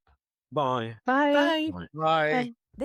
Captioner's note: in Unison